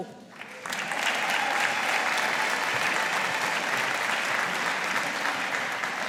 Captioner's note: audience applauding